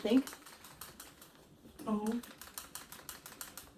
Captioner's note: shaking pen; mockingly; shaking pen